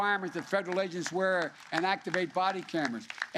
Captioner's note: applause